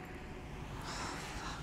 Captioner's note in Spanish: Suspiros